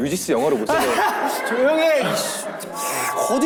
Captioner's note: an exaggerated laughter